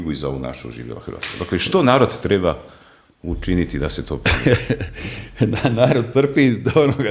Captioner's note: laughter